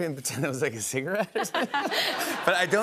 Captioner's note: laughter